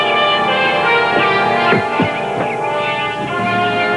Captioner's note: footsteps